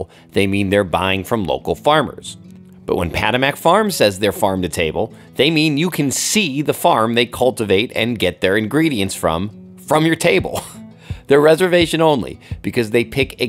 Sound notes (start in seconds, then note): 10.7 chuckles